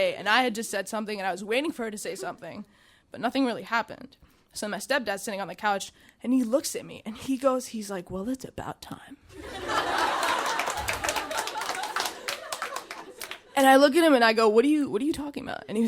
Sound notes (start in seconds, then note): 9.3 audience laughing; 9.6 audience applauding